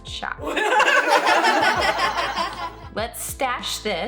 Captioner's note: laughter